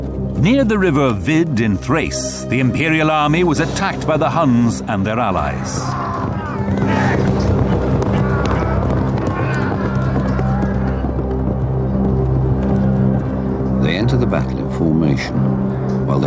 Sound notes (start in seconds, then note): 5.4 horses trotting; 5.8 grunting